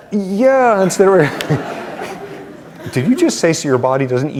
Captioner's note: laughter